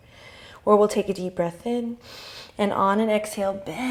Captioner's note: inhale